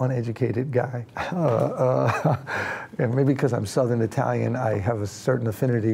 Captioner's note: chuckles